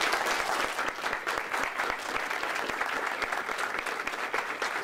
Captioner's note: audience applause